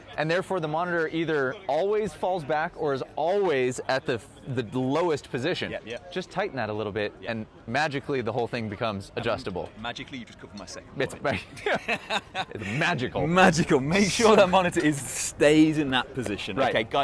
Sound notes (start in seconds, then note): 11.4 laughs